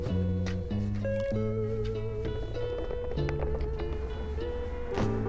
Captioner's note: jiggling; horn honks